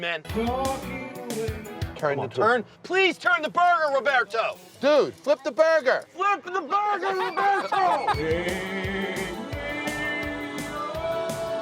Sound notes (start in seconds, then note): 0.2 singing badly; 7.0 laughing; 8.2 singing badly